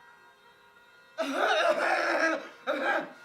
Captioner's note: coughing an entire lung out